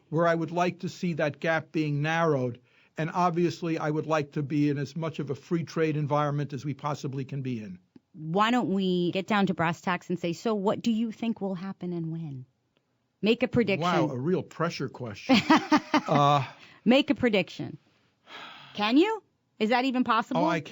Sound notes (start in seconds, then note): 15.2 laughter; 18.3 sighs